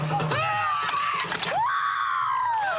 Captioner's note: karate scream; audience applause